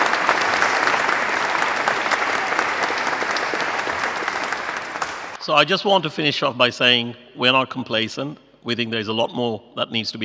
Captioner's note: applause